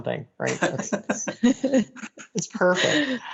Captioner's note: both laughing